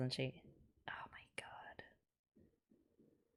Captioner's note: whispers